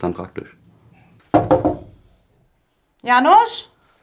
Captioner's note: knock